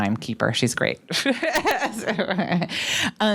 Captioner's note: laughs